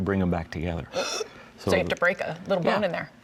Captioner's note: gasps